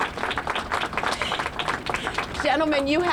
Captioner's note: applause